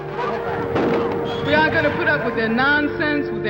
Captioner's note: people yelling; gun fires